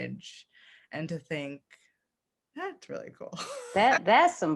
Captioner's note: laughs